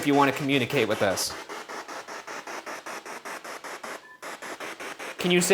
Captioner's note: spirit box chattering